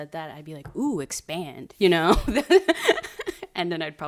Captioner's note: laughs